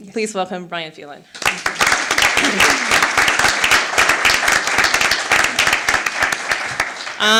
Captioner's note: applause